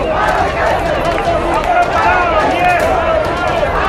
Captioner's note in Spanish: shouting